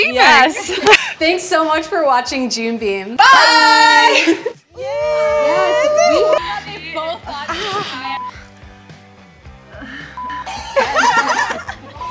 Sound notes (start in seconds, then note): 0.6 laughs; 6.3 camera beeps; 8.3 light uptempo music; 10.2 camera beeps; 10.4 all laughing